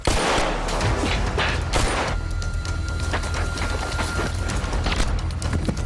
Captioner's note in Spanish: Disparos